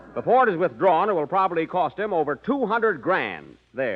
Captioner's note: none